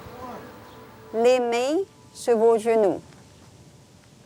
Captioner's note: speaks in french